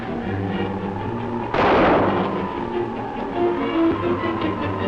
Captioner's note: gunshots